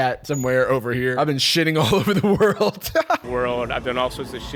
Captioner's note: laughs